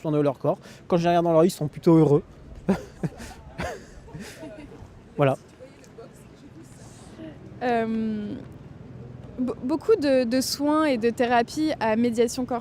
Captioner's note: laughs